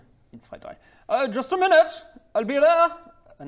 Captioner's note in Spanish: Acento alemán